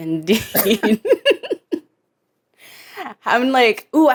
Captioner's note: laugh